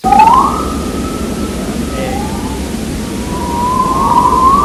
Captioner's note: whistling